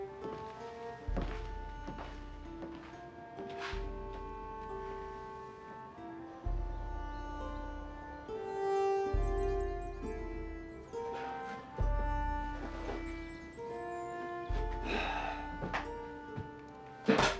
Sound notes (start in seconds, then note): 6.4 birdsong; 9.8 soft music; 14.8 sighing